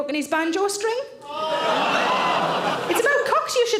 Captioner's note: audience gasp